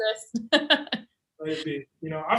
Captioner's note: laughs